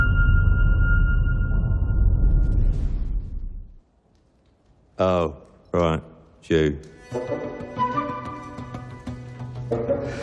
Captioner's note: dramatic sound